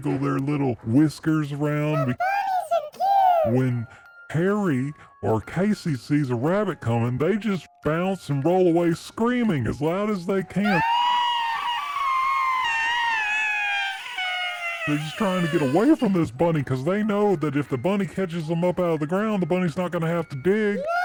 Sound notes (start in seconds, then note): 10.6 screaming